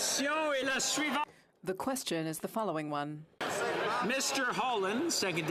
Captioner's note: some Applause